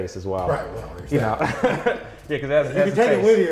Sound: laughs

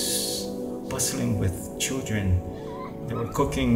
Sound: children playing

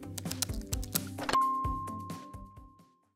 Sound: keyboard tapping; bell rings

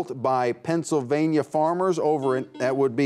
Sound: buzzer beeps

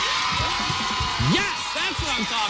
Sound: cheers and applause

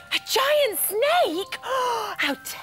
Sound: gasp!

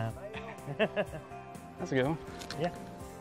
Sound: laughing

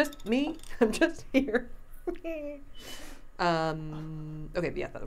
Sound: laughing

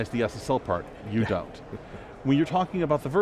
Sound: laughing

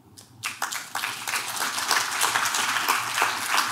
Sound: clapping

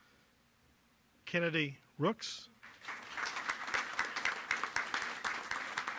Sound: applause

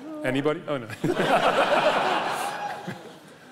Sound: loud laughter

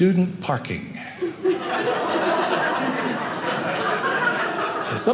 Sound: audience laughing

